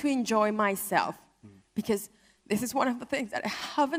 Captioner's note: voice breaks